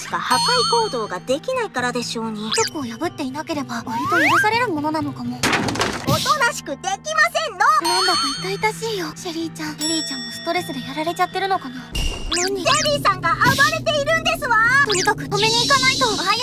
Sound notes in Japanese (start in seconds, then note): 5.4 殴る音; 11.9 物音